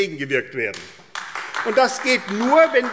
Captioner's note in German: Beifall AfD